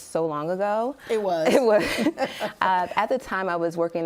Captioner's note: laughing